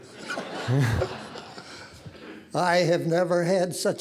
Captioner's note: audience laughing